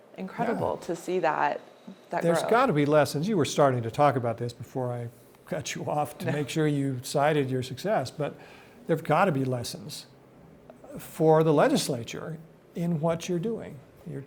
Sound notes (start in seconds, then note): 6.0 laughs